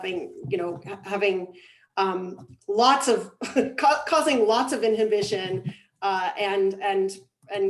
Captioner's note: laughs